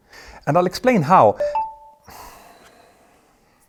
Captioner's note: phone beeps